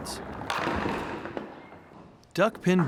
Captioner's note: bowling pins falling